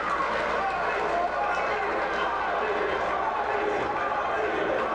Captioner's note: spectators chanting "Robby!"